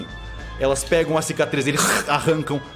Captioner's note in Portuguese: som da aranha mordendo